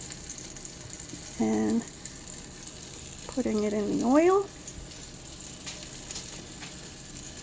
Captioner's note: sizzling